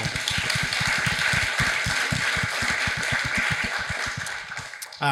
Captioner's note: audience applauding